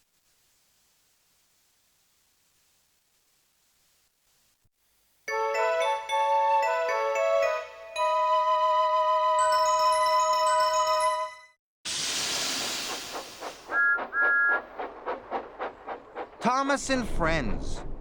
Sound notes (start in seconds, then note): 12.1 chugging; 13.7 whistle blows